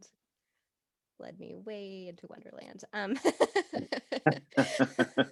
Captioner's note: both laughing